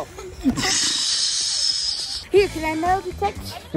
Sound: exhales

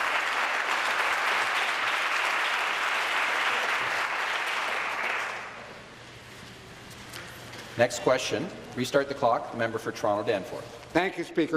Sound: applause

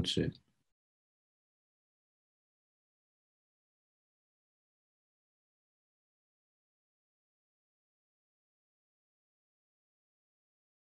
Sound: silence

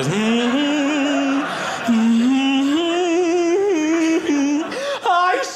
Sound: humming

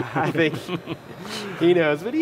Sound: laughter

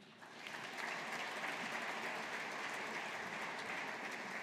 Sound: audience applauding

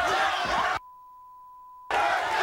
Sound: audience cheering; beep

